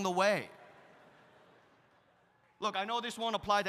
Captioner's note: audience laughs